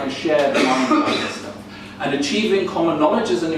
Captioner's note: coughing drowns out speaker